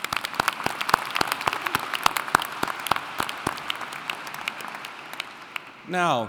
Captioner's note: applauding